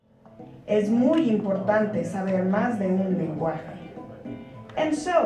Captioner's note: speaking Spanish